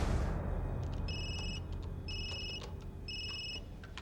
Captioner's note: phone ringing